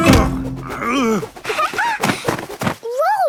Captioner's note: laughing